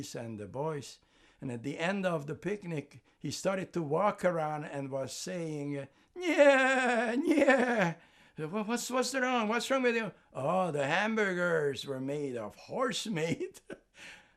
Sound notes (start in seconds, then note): 6.4 imitating horse; 13.1 laughing